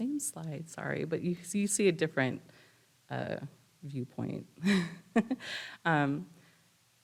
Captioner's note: chuckles